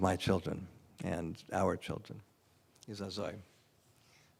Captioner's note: non-english